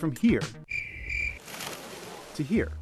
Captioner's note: crickets